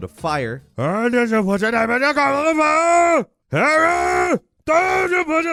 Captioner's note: shouts gibberish